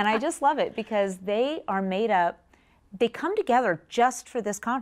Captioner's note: laughter